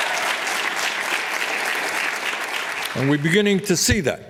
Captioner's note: applause